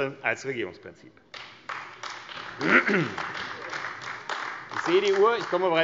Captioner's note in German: Beifall AfD